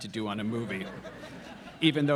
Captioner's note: audience laughing